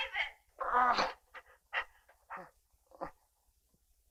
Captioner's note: David groaning